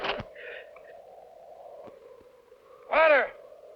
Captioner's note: wind howling